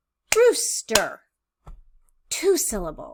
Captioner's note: clapping